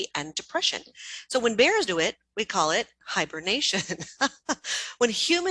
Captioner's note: laughs